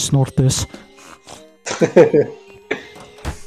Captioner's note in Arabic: ضحك